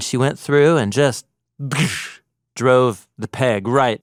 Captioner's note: imitates loud noise